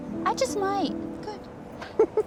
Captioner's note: chuckles